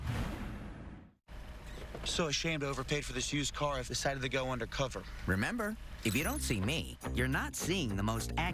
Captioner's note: in S.L.J. voice